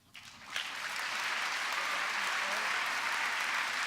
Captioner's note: applause